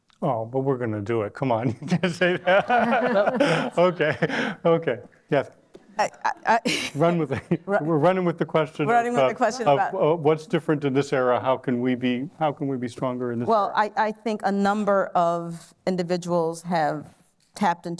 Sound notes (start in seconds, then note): 1.8 laughter